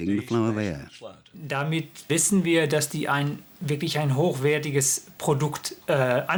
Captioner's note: scientist speaking foreign language